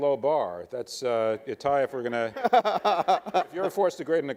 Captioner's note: laughing